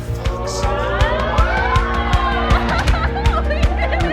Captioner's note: audience exclaiming; laughing